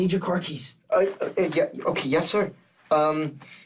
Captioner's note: stammers